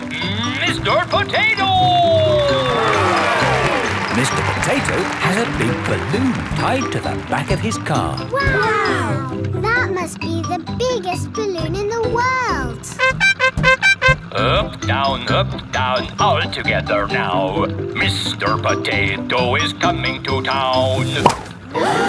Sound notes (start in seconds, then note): 3.2 cheering; 12.9 horn beeping